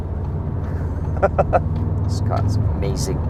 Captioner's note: maniacal laughter